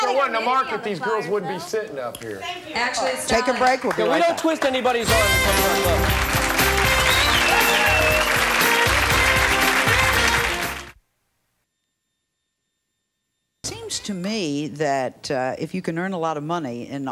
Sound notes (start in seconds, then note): 5.0 upbeat music; 5.6 audience clapping